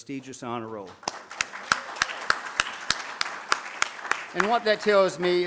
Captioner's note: audience claps